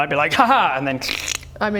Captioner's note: crkkck!